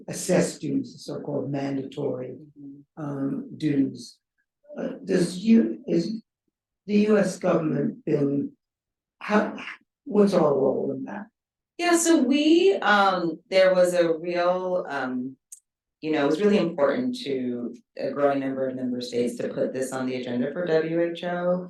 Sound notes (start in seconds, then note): none